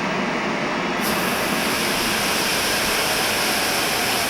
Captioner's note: smoke hisses